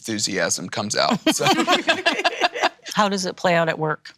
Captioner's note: laughing